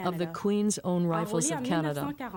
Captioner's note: speaking French